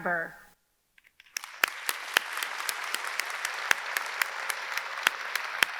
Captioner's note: audience clapping